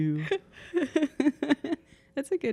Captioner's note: laughing